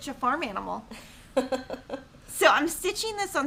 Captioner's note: laughing